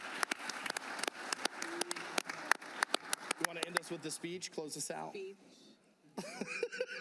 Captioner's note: applause